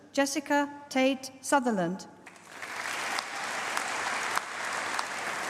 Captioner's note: applause